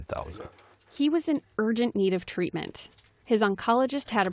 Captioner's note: voice-over